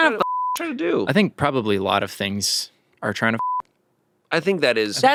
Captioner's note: beep; beep